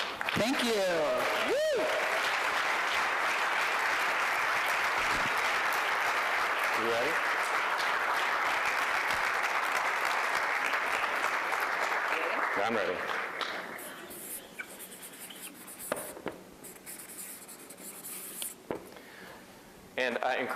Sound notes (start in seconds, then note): 4.5 applause